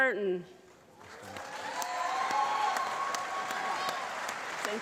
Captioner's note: applause